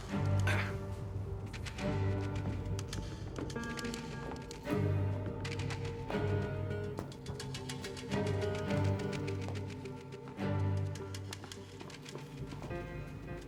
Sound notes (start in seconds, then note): 0.4 Johnny grunts; 3.4 footsteps shuffle